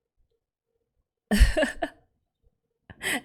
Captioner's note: laughs